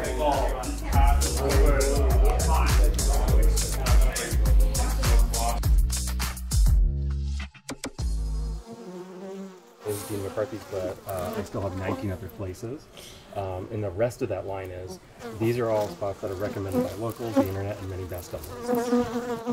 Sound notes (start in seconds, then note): 0.0 people chattering; 0.0 upbeat music; 8.2 bees buzzing